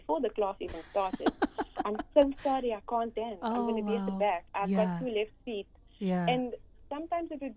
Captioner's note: ha ha